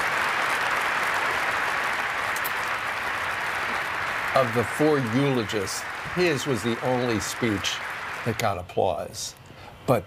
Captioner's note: applause